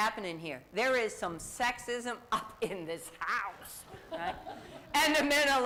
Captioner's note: laughter